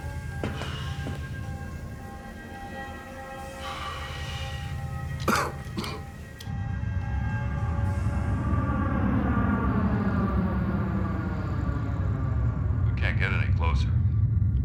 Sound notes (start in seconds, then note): 3.2 exhales, coughs; 8.5 spacecrafts whir